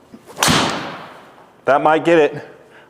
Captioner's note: club smacks ball